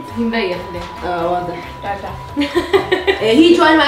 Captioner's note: sarcastically